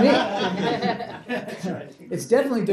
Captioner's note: laughter